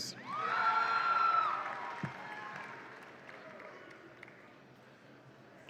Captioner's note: audience applauds and cheers